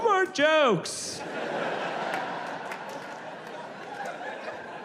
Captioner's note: audience laughs